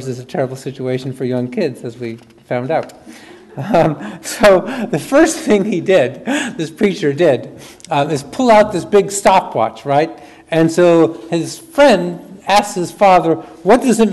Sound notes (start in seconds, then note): 3.2 chuckles; 3.4 audience chuckles